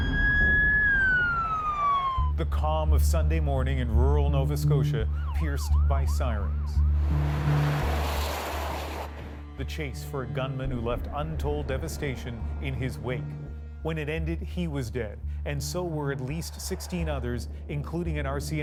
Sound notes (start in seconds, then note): 1.7 sirens